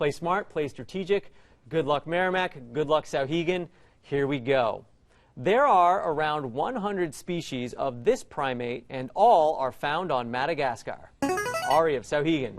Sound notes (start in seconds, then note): 11.2 player buzzer